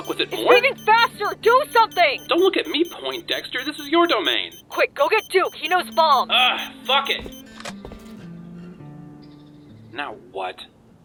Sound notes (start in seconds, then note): 0.0 beeping accelerates; 7.6 beeping stops; 7.6 click